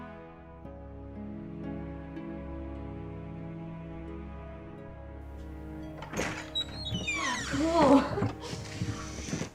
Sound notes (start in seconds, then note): 5.8 door creaking